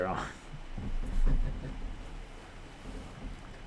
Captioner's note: laughter